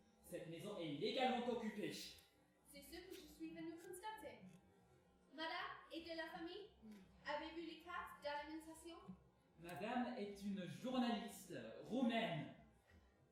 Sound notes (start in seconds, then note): none